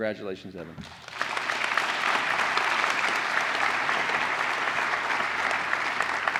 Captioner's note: applause